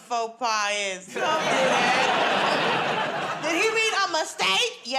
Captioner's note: laughter